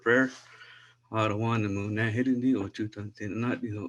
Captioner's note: non-english speech